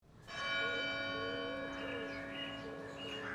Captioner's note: bell Tolls